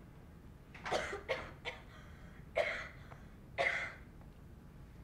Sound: loud coughing

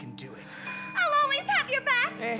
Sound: elevator bell

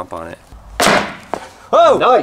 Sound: stomping noise

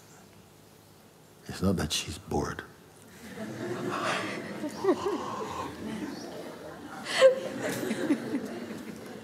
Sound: laughter

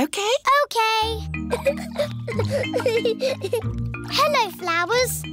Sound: giggling

